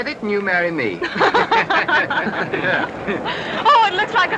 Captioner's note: laughter